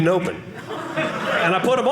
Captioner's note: audience laughing